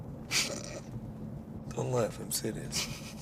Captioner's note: Ava laughs